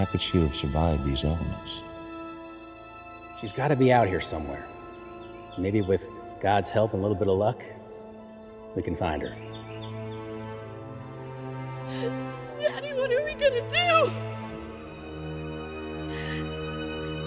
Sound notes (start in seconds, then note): 11.8 Carol crying